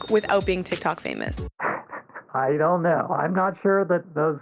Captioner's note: laughs